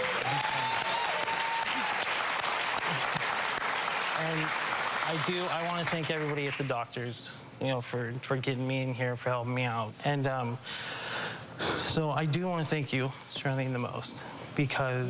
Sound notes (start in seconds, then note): 2.5 crowd cheering; 3.1 applause